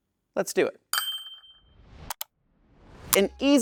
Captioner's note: bell dings